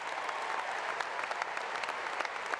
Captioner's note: applause